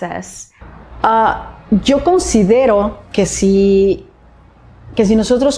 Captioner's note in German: Spanisch sprechen; spricht Spanisch